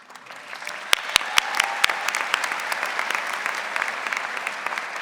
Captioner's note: audience applauding